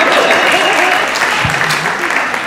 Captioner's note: audience laughing